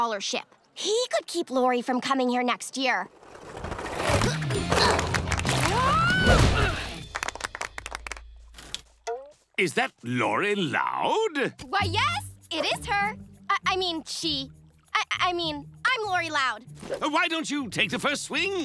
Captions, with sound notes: He could keep Lori from coming here next year. [grunting] Whoa! [clapping] Is that Lori Loud? Why yes! It is her! I mean she, uh, I mean, I'm Lori Loud. Why don't you take the first swing?